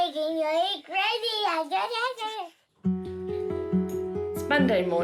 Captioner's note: babbles